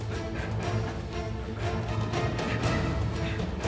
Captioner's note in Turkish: Zincir zırh sesleri